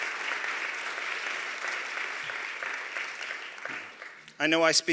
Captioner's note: applause